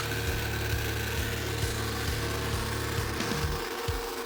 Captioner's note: saw running